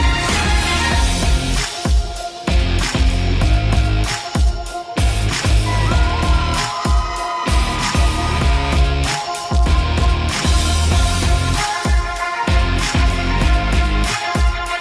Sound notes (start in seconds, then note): 0.7 upbeat music continues; 5.9 crowd cheering